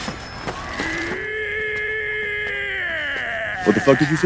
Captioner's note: barbarian charging sounds